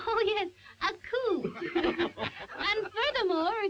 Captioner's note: all laughing